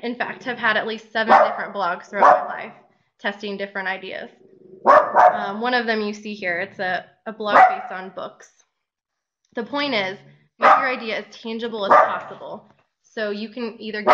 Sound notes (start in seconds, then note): 4.8 dog barking